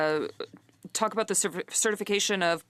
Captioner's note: speaking French